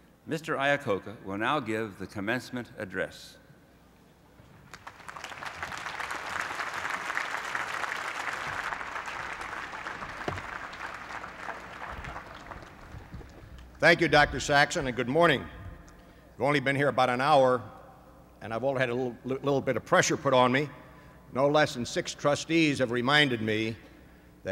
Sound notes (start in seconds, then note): 4.6 applause